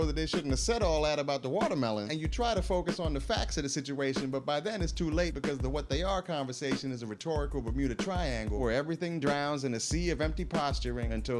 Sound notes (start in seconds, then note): none